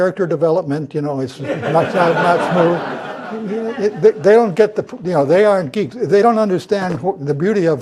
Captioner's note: laugh